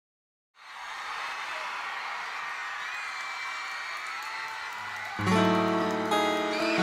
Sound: applause

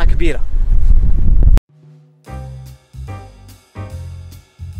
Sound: wind sound

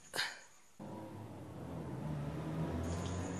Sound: vehicles approaching

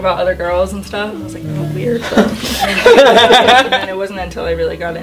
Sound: laughter

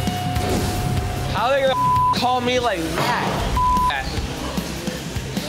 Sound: energetic music playing; beeping

